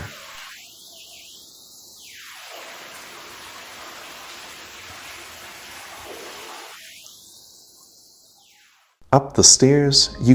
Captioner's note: water noise